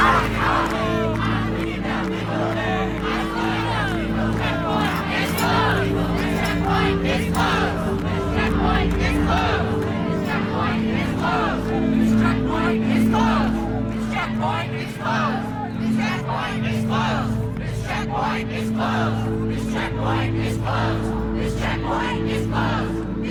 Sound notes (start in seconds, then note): 4.4 crowd